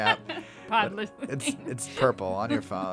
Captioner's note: laugh